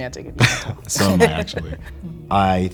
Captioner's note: both laugh